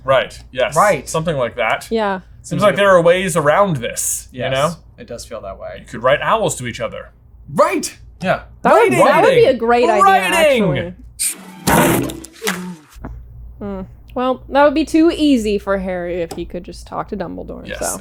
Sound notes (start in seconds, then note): 9.8 moan; 11.6 thump